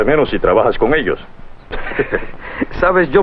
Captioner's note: chuckling